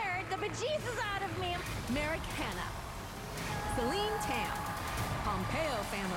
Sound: cheers and applause

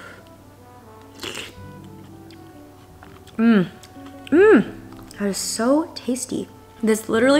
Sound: slurping

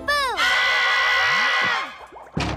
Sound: screaming

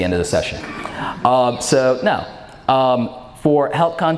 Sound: audience laughs

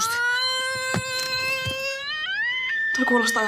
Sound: screaming

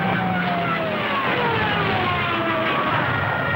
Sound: engines humming; planes whining

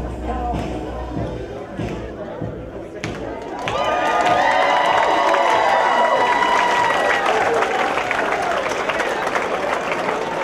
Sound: crowd cheers

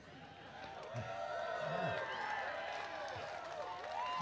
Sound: applause

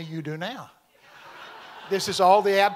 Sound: congregation laughing

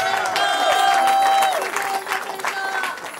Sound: cheering

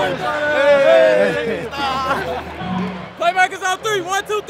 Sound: laughing

